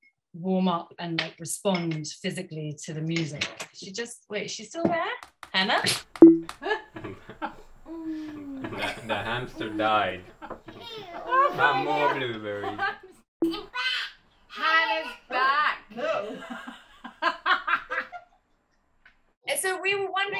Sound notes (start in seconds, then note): 6.1 Zoom crashes; 11.9 laughing